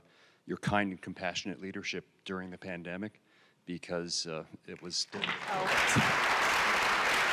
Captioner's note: clapping